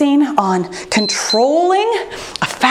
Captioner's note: timer beeps